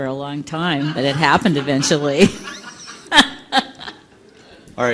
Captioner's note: laughter